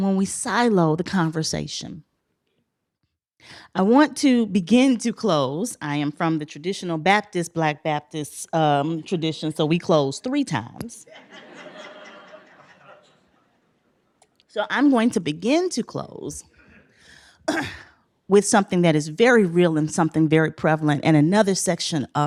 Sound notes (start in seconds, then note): 11.0 laughter